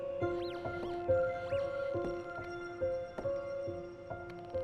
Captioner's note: device chirping